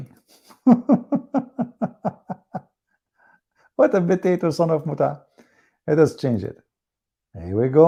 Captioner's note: Ketawa